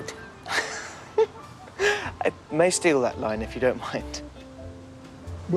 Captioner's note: laughing